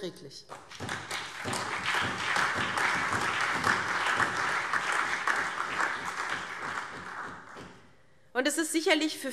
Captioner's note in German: Allgemeiner Beifall